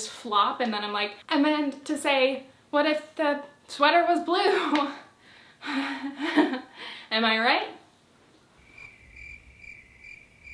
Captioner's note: crickets